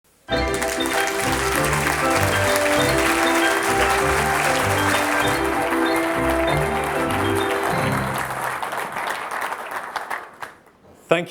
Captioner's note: applause